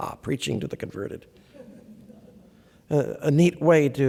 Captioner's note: laughter